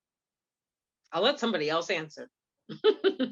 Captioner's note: laughs